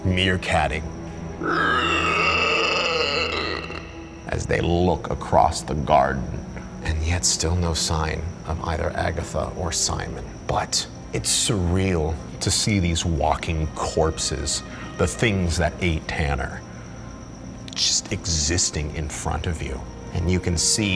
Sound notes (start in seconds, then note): 1.4 creature shrieking